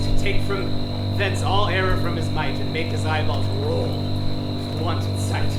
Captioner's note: none